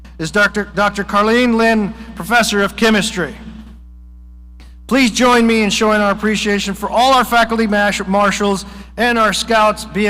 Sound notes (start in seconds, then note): none